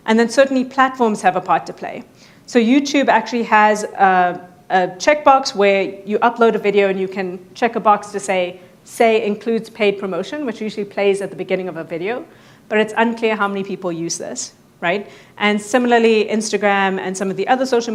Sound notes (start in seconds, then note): none